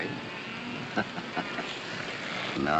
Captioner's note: chuckling